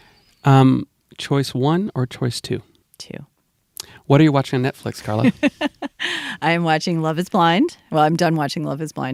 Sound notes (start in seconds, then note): 5.0 laughs